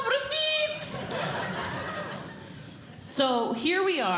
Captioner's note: audience Laughing